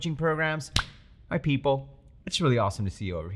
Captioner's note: chest smacking